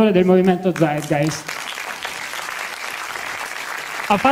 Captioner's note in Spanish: aplausos